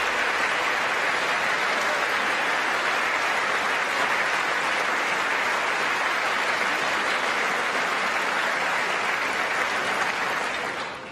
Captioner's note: applause